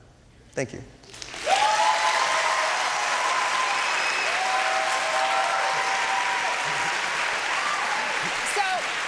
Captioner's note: applause and cheering